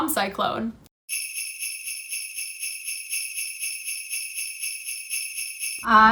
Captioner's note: sleigh bells jingling